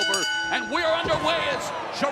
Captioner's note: bell ringing